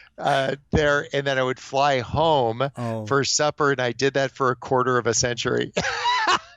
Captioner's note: chuckles; laughs